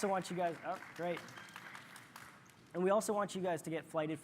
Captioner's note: applause